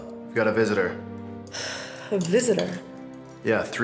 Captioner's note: sighs